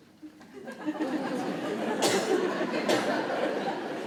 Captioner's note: crowd laughs